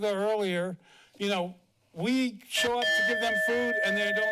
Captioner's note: bell dings